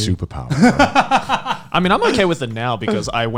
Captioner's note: laughing